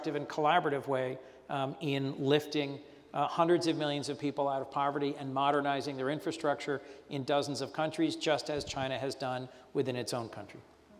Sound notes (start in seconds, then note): none